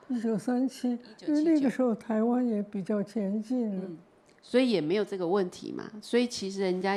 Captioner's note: Mandarin